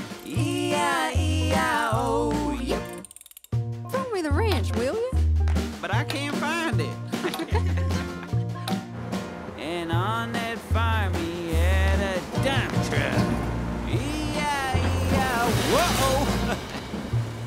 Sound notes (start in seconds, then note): 6.4 speakers laugh